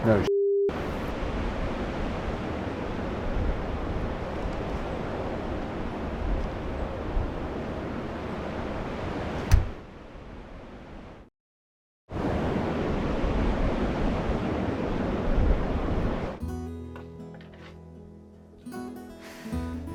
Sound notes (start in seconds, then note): 12.2 wind humming; 16.4 mellow guitar music